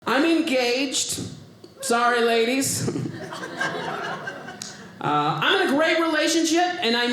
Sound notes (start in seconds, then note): 2.8 audience laughing